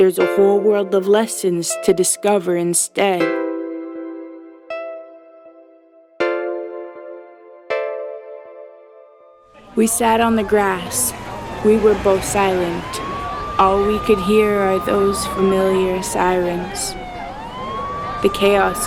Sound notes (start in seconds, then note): 9.5 sirens